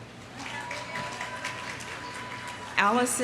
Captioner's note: audience applauding